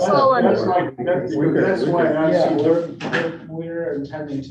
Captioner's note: all chattering